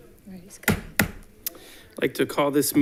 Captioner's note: gavel bangs